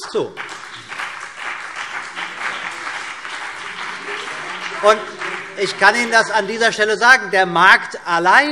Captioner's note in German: Beifall BÜNDNIS 90/DIE GRÜNEN und vereinzelt CDU